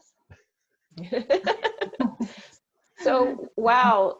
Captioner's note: laughs